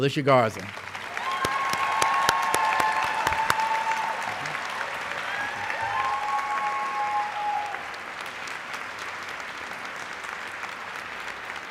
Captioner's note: applause